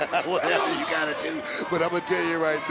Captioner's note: laughs